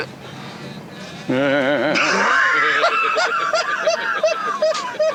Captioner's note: both laughing